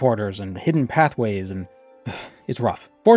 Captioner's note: sigh